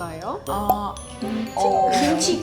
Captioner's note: hahaha